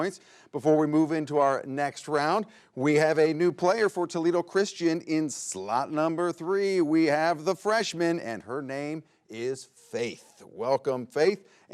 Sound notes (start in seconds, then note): none